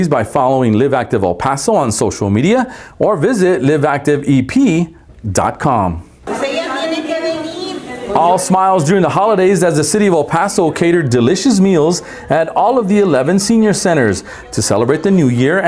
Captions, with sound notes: by following Live Active El Paso on social media or visit LiveActiveEP.com. (chattering) All smiles during the holidays as the city of El Paso catered delicious meals at all of the 11 senior centers to celebrate the new year.